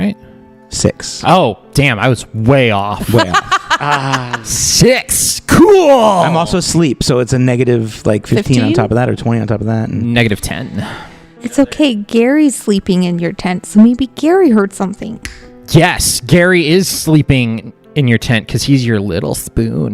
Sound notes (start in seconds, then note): 3.1 laughs; 3.8 sighs